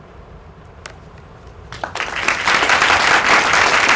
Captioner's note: applause